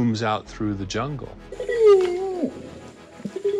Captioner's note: howls